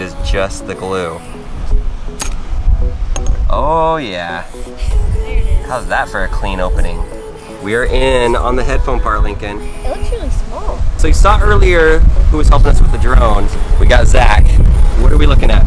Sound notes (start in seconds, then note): none